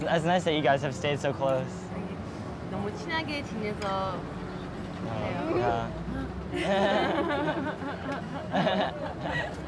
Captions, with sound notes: - It's nice that you guys have stayed to close. (speaking Korean) (laughing)